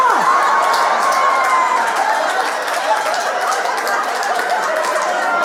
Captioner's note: audience laughing and applauding